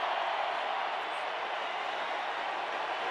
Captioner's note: crowd cheering